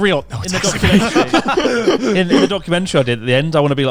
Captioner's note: laughing